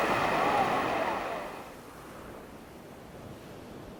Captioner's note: waves crashing